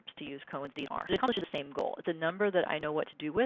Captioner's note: glitching speaking